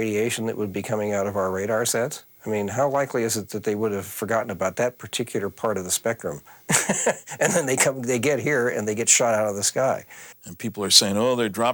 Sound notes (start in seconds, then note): 6.6 chuckles